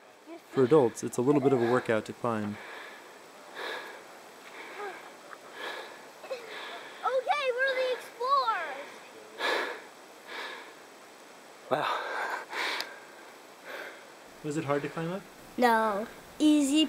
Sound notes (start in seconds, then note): 4.7 panting